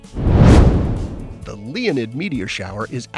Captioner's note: air whooshing